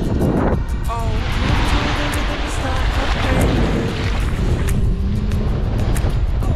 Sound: wind whooshing drowns out other sounds

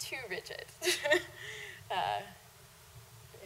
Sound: laughing

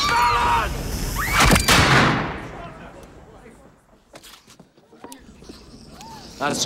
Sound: woman screaming

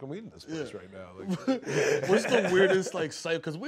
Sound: laughter

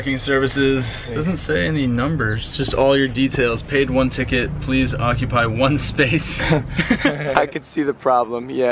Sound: laughs

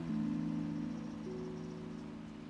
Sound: birds twitter

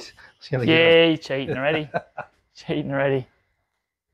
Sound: laughs

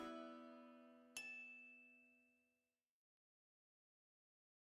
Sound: light ding

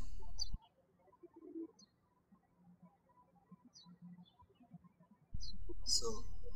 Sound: birds chirping

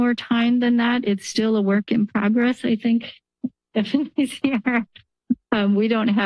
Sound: laughs

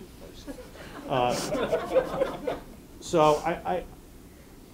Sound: audience laughing

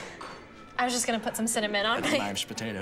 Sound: laughs

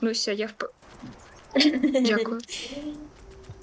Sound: giggles

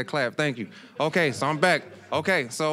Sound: audience chuckling

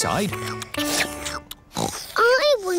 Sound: slurping; oinks

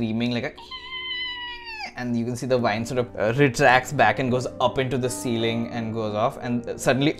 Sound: screams

